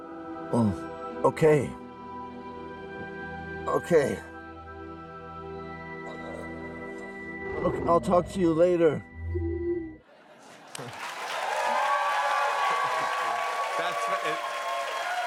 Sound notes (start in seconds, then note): 10.6 cheers and applause